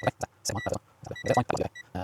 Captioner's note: beeping